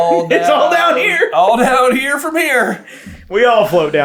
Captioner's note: laughing